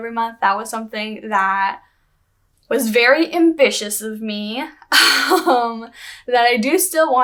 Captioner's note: laughter